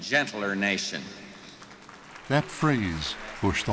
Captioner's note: audience applauding